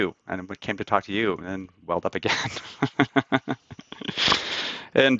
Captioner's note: laughs